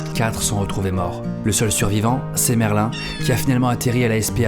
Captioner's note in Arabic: مواء